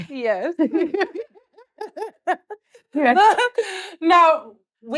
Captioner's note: laughs